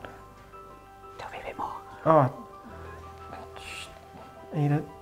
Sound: whispers

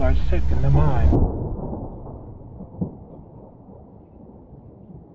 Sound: thunder rumbling

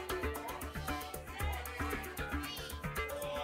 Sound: audience shouting numbers

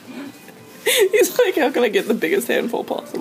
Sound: laughing

